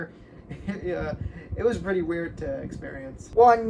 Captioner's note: laughs